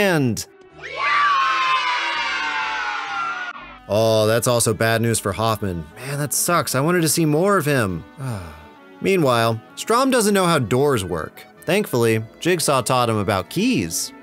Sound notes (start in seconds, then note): 0.8 kids yelling yaaaaay; 8.2 sigh